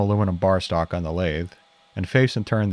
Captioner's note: drill whirring